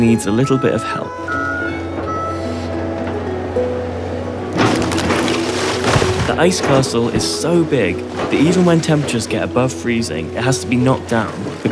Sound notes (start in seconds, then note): 1.4 excavator beeping; 4.5 ice crumbling